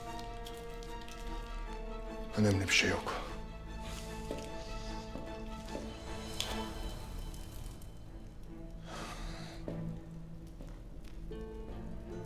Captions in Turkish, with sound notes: Önemli bir şey yok. (Alev sesi)